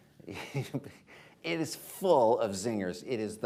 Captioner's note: laughter